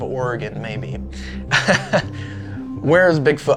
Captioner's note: chuckles